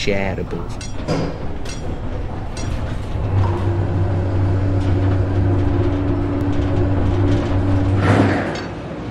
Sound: mechanical shaft groaning

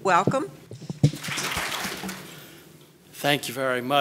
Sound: audience applauding

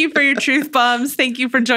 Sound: laughing

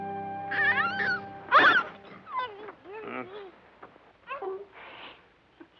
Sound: baby cooing

